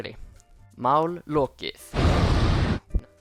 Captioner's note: boom